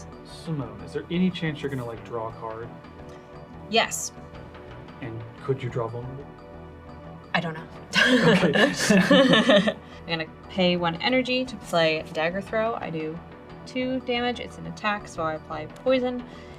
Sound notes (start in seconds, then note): 8.0 all laugh